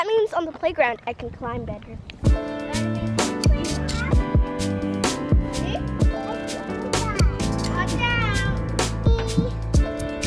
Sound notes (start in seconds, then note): 2.2 upbeat music; 2.5 children chatter